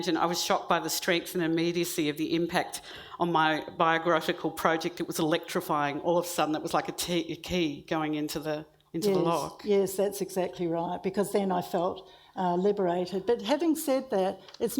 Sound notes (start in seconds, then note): none